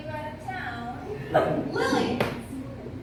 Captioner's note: laughs